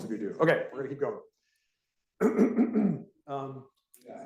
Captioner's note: coughs